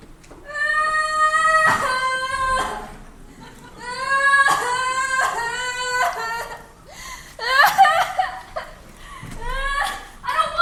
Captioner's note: Ermengarde crying loudly